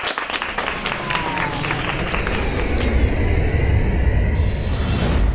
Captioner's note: students applauding; airplanes loudly soaring